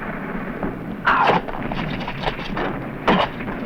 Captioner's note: grunts